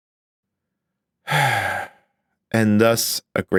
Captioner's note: long sigh